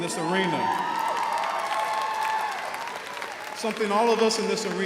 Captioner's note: crowd applauds